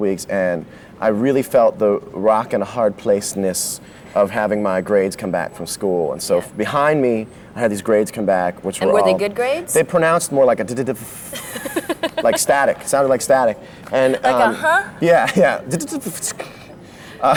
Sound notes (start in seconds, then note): 10.6 imitating static; 11.2 laughs; 15.8 imitating static; 17.2 laughs